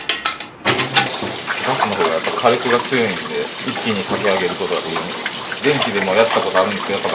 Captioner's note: kettle